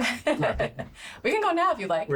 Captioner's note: laughs